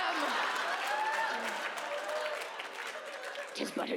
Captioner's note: audience laughs and claps